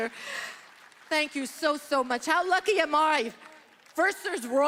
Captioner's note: applause